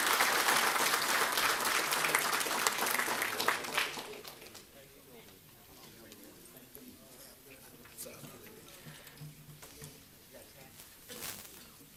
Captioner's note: applause